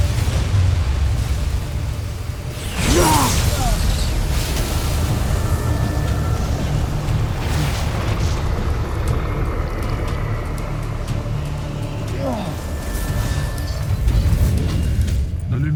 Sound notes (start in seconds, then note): 0.0 powerful whoosh-crackle; 2.8 growls & groans; 3.8 evil energy whoosh & crackle; 12.0 groans; 13.0 evil energy whoosh & crackle; 13.0 music swells